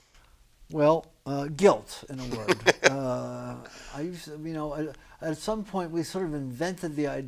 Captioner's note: laughs